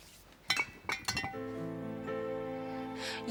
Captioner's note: glass clinking; gentle music